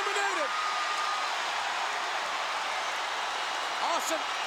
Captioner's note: crowd cheers